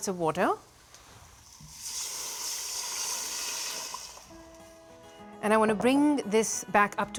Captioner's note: sizzling